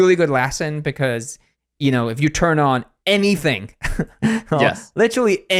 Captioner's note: laughs